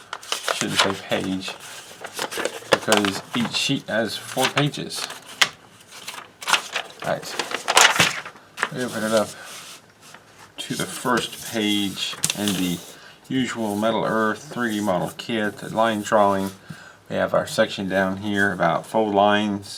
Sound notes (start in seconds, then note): 6.2 paper rustling